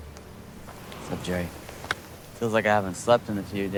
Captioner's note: hands slapping